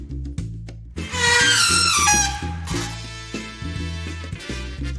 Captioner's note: metal screeching